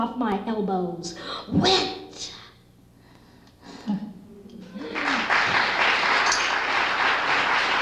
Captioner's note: applause